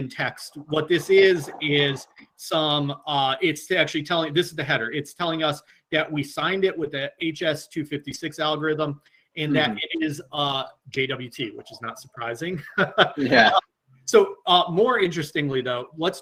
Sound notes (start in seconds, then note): 12.6 laughs